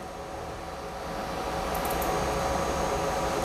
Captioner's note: clicking noise